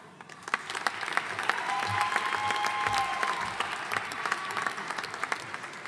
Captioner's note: audience cheering and applauding